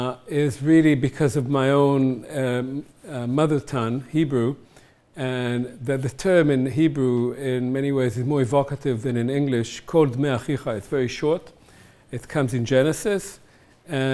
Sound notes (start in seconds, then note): 9.8 hebrew